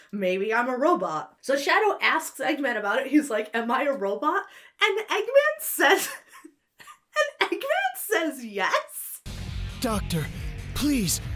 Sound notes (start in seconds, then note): 6.7 laughs; 9.3 intense music